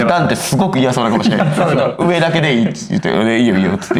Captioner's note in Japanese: 笑い